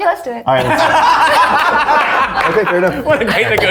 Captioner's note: all laughing